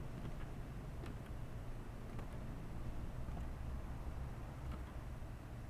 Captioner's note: footsteps